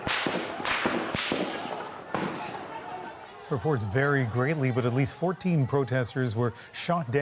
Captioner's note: gunshots